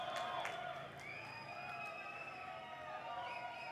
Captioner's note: applause